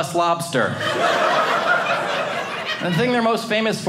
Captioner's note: audience laughing